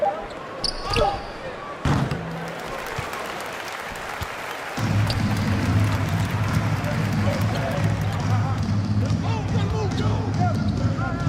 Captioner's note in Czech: Potlesk